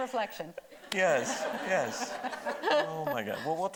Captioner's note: everybody laughing